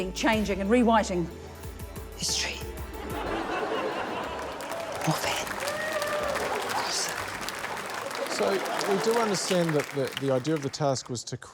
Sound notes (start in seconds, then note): 3.0 laughter; 7.5 applause